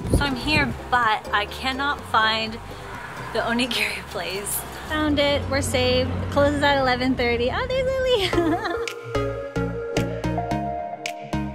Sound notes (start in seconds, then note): 3.1 speaking foreign language; 7.3 upbeat music playing